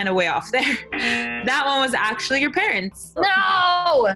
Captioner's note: buzzer